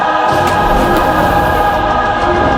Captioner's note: flies buzz; junk soars